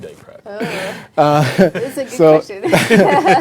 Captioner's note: chuckling